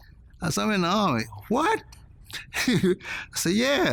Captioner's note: laughs